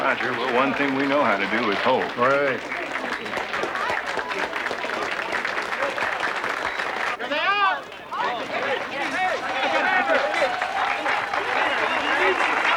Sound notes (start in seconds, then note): 2.2 applauding; 7.6 chattering; 10.2 applauding